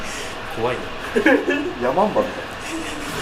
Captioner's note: laughs